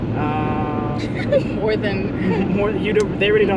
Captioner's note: chuckles